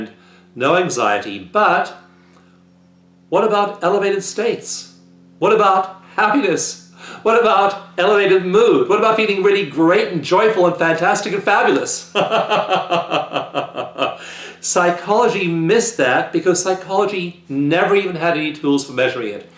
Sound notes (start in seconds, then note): 12.1 chuckle